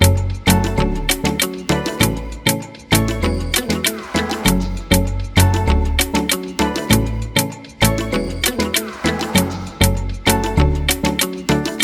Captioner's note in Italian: Applauso